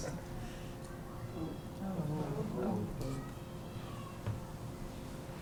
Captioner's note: non-english